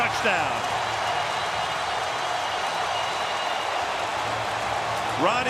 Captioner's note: cheering